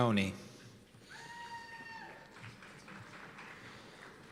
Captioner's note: cheers and applause